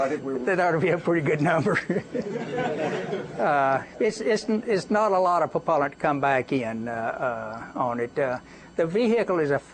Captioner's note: laughter